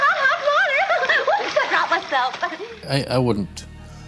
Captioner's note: giggles